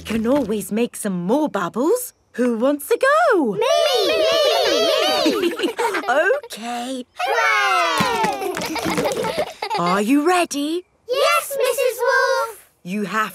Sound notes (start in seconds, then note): 8.1 chuckles; 8.9 kids laughing